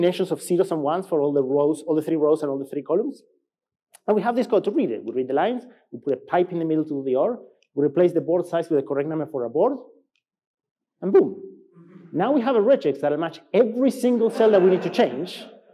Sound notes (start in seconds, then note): 11.8 laughs